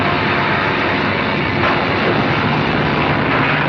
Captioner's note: thunderclap